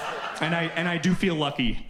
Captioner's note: audience laughs